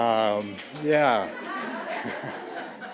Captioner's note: audience laughing; chuckling